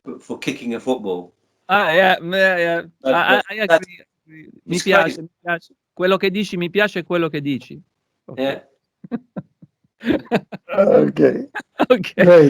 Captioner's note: talking in italian